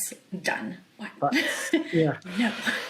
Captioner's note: chuckles